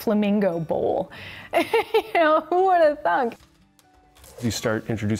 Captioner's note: laughs